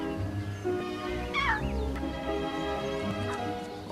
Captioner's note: squeaks